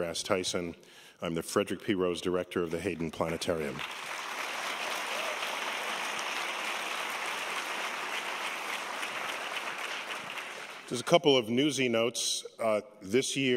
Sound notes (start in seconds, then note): 5.0 applause